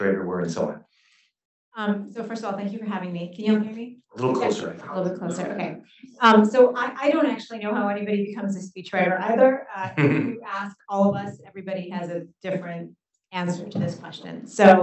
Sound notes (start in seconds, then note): 9.9 chuckles